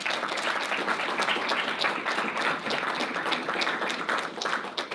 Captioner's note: audience applauding